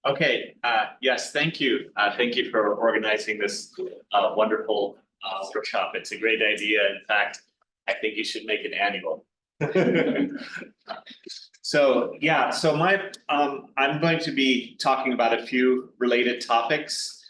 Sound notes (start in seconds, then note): 9.6 chuckles